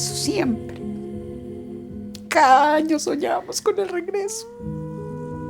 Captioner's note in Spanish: solloza